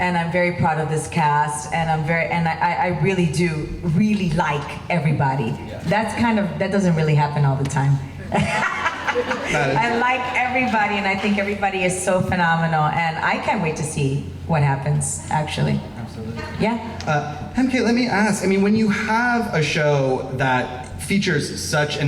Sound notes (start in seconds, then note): 8.2 laughs